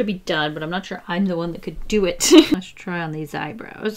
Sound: laughs

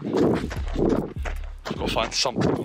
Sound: wind blowing

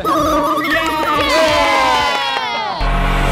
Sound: contestants applauding

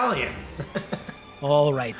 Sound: chuckling

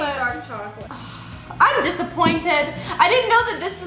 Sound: sighs

